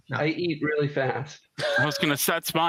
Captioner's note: laughter